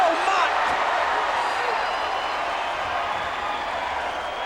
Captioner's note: crowd cheering